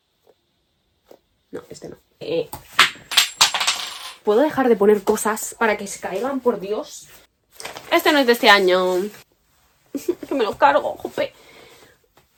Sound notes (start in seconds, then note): 2.7 something falls